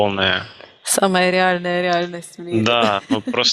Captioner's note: laughing